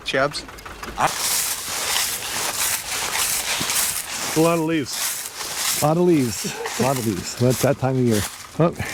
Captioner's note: crunching of footsteps on dried leaves